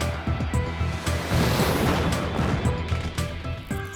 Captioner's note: fireworks crackling